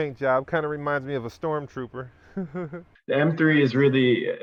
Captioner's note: chuckles